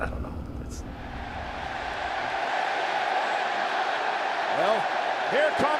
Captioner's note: crowd cheering